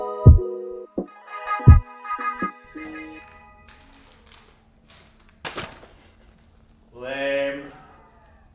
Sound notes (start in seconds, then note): 2.6 plastic rustling